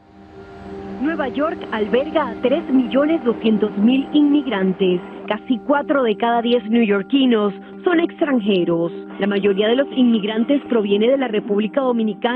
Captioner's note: speaker speaking in foreign language